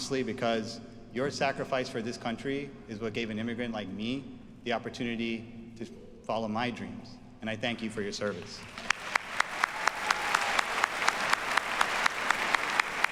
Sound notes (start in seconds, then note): 8.6 audience applauds